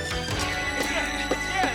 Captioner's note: shovel thudding